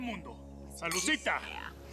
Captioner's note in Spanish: chocan las copas